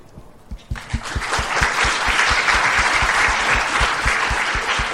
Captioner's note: applause